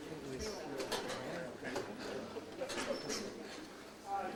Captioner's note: audience chattering